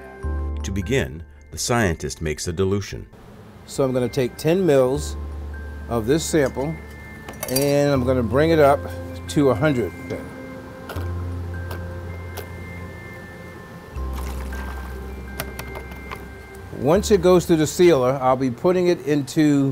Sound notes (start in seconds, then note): 10.8 liquid sounds